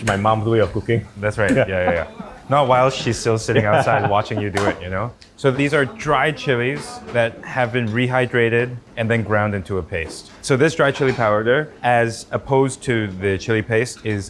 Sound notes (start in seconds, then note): 3.4 laughs